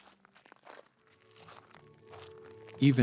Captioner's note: footsteps on earth